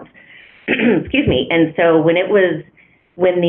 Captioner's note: clears throat